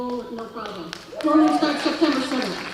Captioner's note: applause